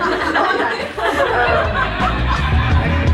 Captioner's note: laughter